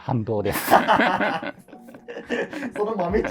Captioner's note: laughing